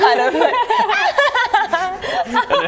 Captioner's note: childish laughter